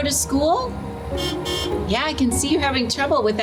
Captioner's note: horn honks